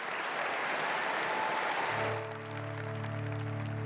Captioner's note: applause